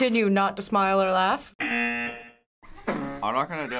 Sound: buzzer

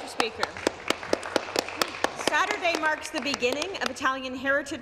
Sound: some Applause

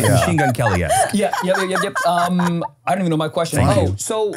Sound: laughs

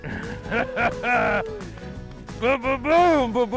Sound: laughs

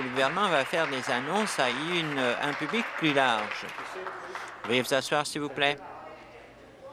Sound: applause

